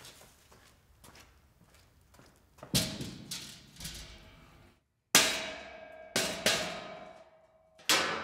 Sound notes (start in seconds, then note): 2.7 metal clanging